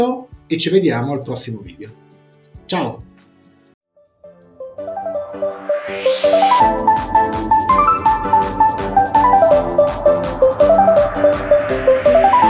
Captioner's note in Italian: Applauso